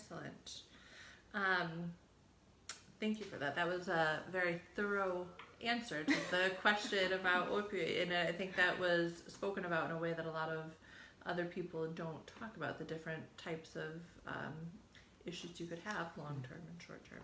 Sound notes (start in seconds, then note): 6.0 chuckles